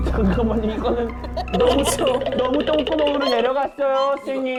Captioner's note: dramatic music; urgent sound